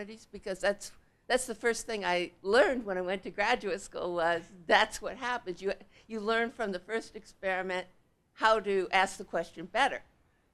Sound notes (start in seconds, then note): none